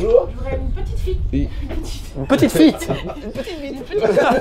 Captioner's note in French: Fou Rire